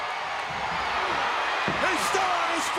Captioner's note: fist thuds